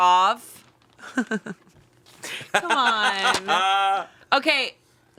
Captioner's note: all laughing